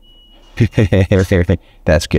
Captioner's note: laughs